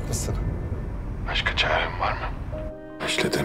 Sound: Akif voice

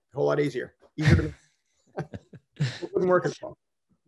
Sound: laughs

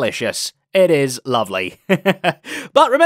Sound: laughs

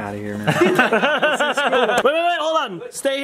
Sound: laughing

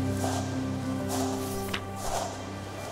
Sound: page turns

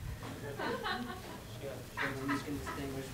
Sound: students laughing

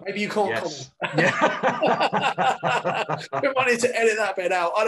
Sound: both laugh

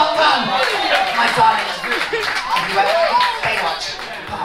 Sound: crowd applauding

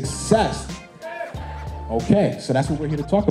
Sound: crowd

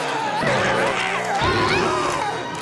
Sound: belching

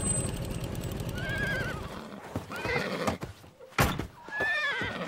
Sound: horse whinnies

